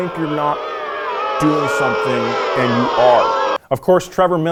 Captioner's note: crowd booing